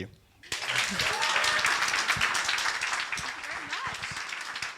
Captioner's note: audience applauding